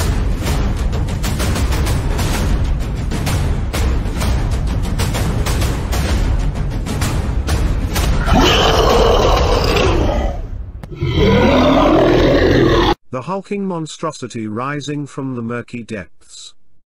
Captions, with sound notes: (War Drums) (War Drums) (Monster Roaring) The Hulking Monstrosity Rising From The Murky Depths...